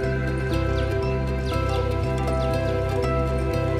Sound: birds chirping

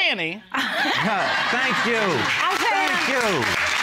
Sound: all laughing

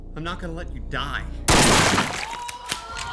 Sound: gunshot

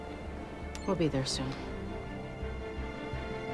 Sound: switch clicks

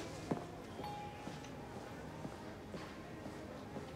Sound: chimes

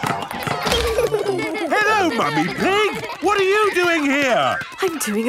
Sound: laughter

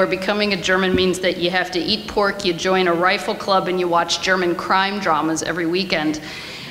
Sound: none

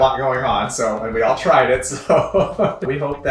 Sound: laughs

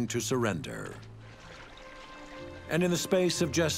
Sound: water trickling

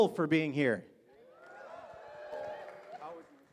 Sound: audience cheers

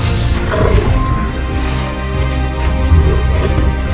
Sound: Hulk growling

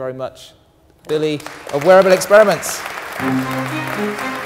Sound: applause; orchestral music

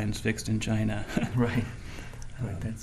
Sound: chuckling

